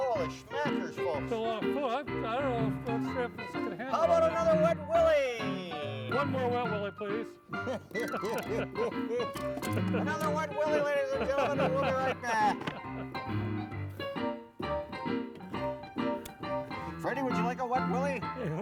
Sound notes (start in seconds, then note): 7.5 laughing; 12.6 ragtime piano music